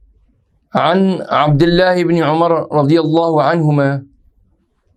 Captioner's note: arabic